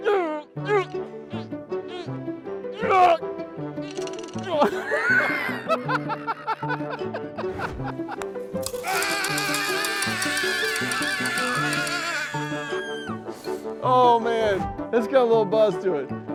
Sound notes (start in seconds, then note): 0.1 wincing; 3.8 laughing; 8.8 screaming